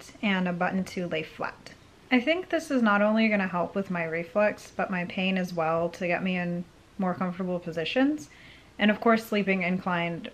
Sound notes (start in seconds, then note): none